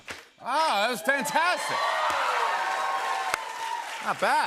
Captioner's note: cheers and applause